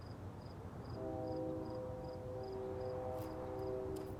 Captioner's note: distant train horn blares